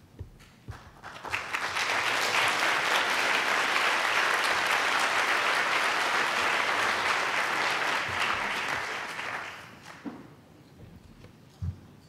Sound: applause

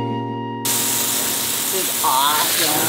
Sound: water spraying

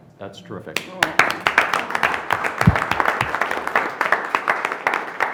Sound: board applauds

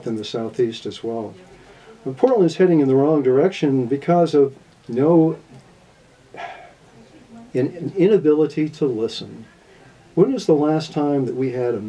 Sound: sigh

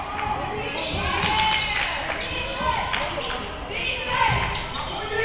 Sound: crowd

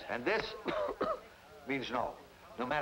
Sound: man coughing

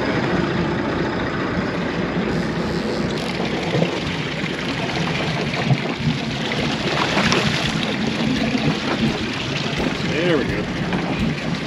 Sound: reel cranking; boat engine running

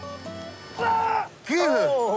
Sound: gutteral grunt

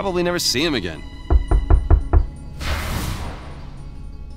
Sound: knocking upon door

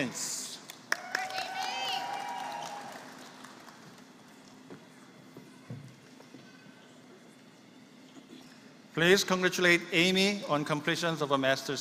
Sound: applause

